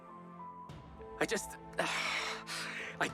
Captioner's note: Max groans